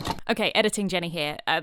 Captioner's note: VHS clunk